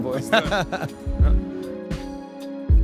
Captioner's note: laughs; mid-tempo soothing music